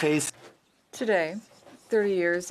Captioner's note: speaking French